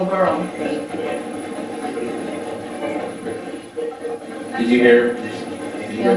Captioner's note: static playback transmitting